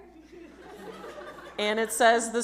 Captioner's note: audience laughs